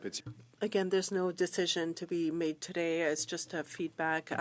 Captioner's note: speaking French